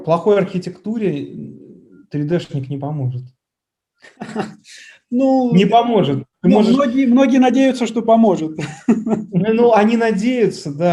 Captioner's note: laughs